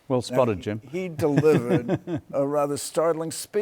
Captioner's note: chuckles